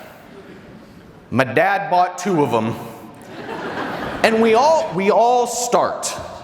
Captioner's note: audience laughter